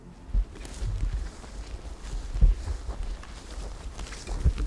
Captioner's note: footsteps crunching